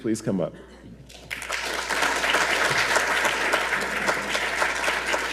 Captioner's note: audience applauds